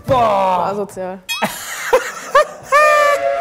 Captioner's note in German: Lachen